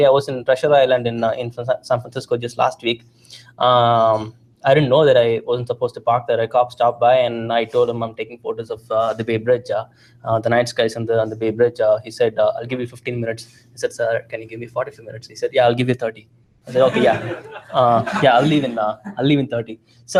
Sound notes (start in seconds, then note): 16.7 laughter